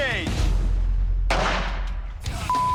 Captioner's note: gunshot